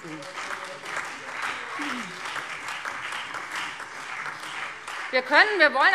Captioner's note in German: Beifall Freie Demokraten, CDU, BÜNDNIS 90/DIE GRÜNEN, SPD und DIE LINKE